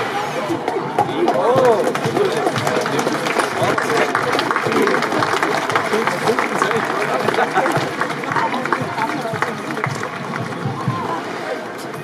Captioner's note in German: Applaus